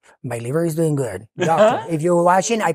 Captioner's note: friends laughing